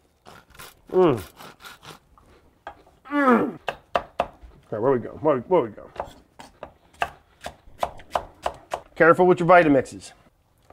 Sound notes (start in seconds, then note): 0.7 celery crunching; 3.4 knife sharply whacking; 7.1 knife sharply whacking